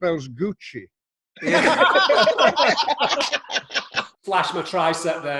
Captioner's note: group laughs